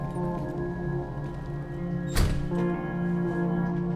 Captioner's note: door opens; door closes